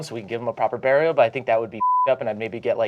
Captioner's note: beeping